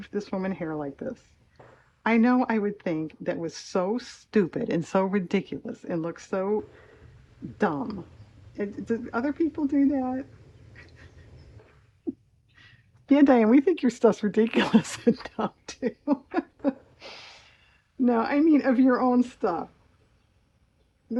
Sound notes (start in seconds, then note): 17.2 laughs